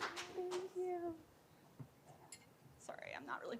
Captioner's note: indistinct conversation